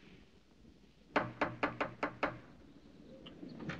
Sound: knocking

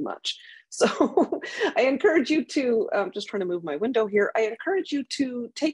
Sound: laughs

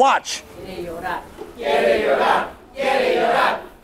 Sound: crowd chants

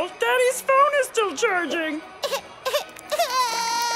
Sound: crying

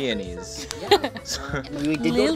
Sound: chuckles

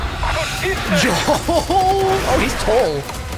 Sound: giggles

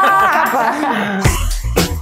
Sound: all laugh; upbeat music

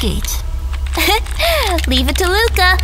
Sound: Marle Giggles

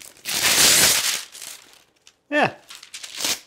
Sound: paper rips

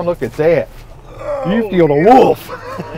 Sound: groans

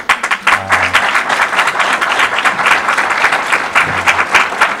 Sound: audience applause

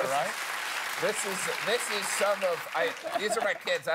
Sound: cheers and applause

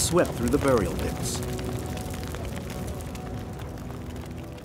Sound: fire crackling

